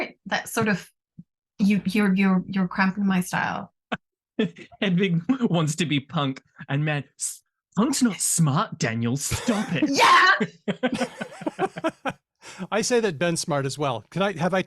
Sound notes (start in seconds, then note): 4.4 laughs; 9.2 laughter; 9.7 excitedly